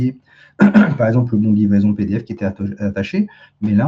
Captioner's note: raclement de gorge